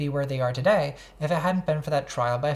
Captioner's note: none